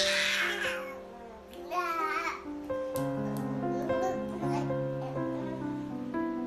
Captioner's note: bebé grita y balbucea